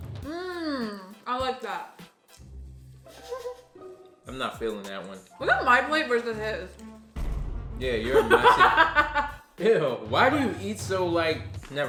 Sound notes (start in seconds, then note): 8.0 laughing